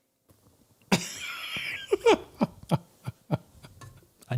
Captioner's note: laughter